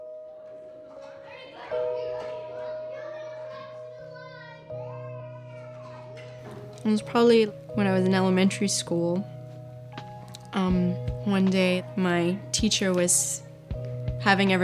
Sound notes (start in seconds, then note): 0.4 children chatting